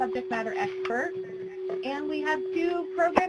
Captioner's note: audio feedback